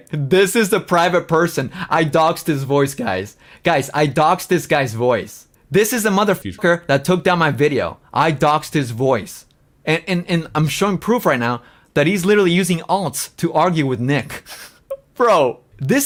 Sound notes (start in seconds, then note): 14.3 laughs